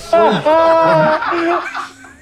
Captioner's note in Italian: risate